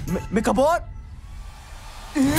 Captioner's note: fan gusting